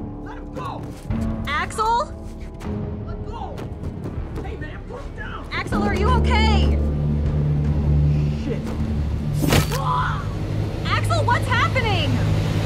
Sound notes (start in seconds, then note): 9.4 offscreen impact, screaming